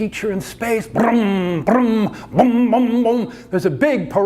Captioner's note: parade noises